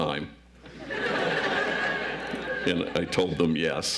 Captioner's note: audience laughs